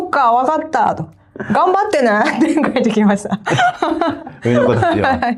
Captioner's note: laughs